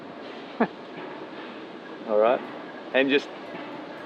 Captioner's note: chuckling